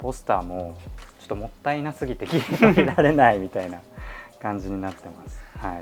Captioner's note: laughter